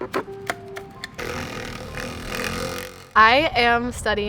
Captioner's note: light music; machine whirring